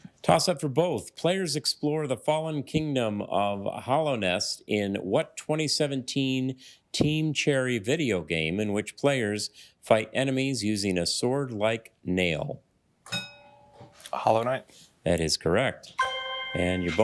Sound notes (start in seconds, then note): 13.1 bell dings; 16.0 ethereal ring